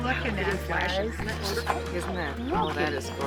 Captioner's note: indistinct chatter